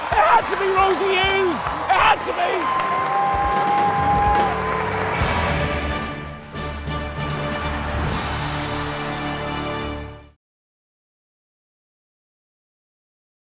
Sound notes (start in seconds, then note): 3.2 cheers and applause; 5.6 triumphant music